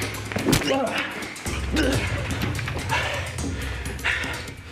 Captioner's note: Jason grunting